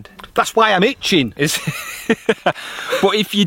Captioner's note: laughs